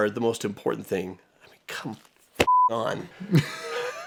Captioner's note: beeping